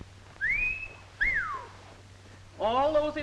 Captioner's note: Minerva whistling